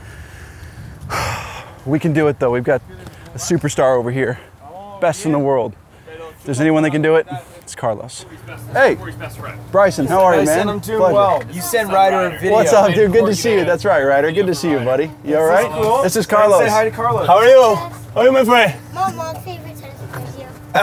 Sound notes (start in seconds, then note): 1.0 sighs